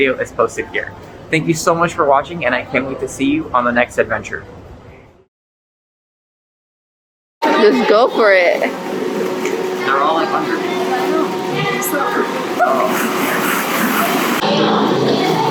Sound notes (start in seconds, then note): 11.6 laughs